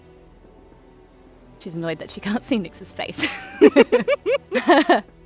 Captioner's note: laugh